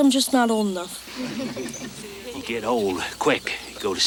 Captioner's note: congregation chuckles